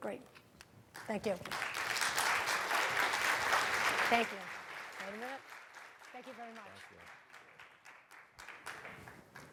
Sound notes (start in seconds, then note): 2.3 audience clapping